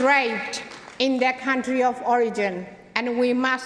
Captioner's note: applause